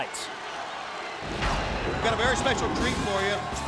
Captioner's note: crowd cheering